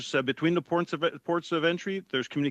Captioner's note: speaking French